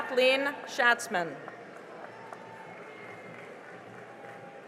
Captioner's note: cheering and applause